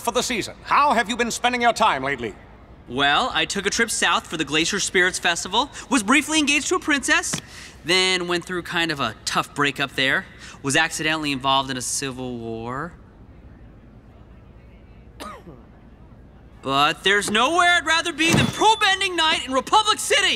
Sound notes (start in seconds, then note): 15.1 coughing